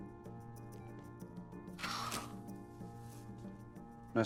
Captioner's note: sighing